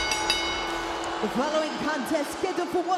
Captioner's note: bell ringing